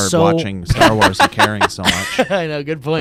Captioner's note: laughing